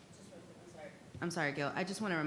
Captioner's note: faintly speaking